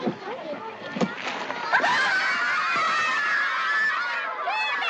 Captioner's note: everyone Screams